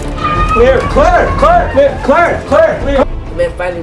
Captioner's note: Osama screaming